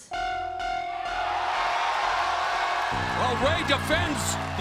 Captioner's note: crowd cheers